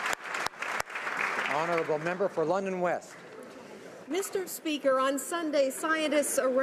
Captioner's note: applause